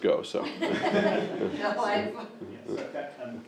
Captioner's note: group laughing; man speaking